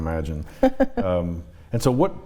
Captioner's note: chuckles